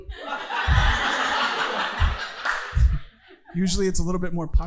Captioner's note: audience laughing